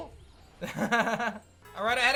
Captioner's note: chuckles